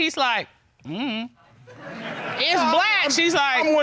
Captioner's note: audience laughs